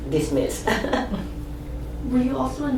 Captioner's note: laughs